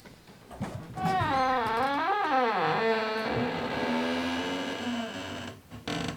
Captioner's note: door creak